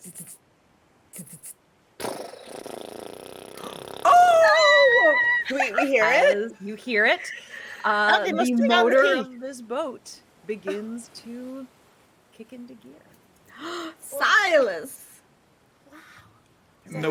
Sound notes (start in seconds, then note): 0.2 mimics engine ticking; 2.0 mimics engine revving; 13.6 person gasping